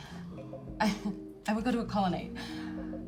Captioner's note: laughs